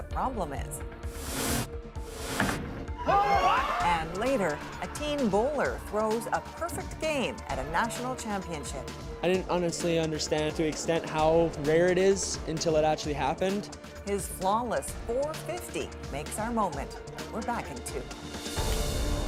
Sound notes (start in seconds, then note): 6.1 cheers and Applause